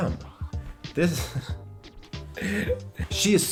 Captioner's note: laughs